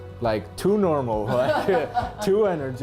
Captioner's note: laughing